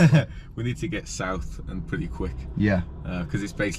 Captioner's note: laughs